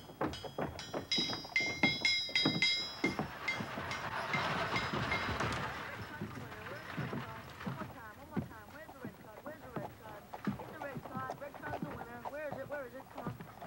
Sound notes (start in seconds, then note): 0.0 metal clinking; 4.6 wagon rumbling